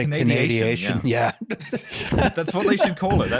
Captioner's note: laughter